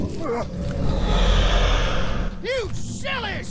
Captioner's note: roar